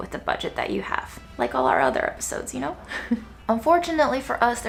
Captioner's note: laughs